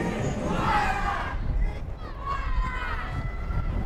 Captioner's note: fans chanting